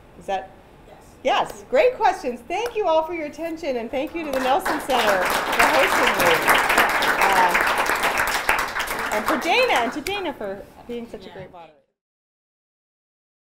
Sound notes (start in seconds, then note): 6.5 applause